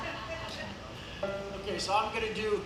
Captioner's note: audience laughs